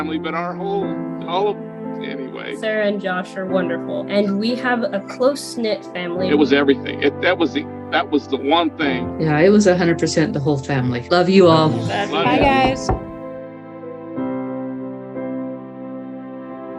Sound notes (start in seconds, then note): 12.2 knocking on door; 14.1 soft music